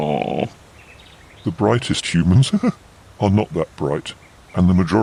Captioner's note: laughs